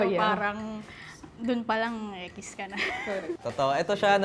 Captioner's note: laughs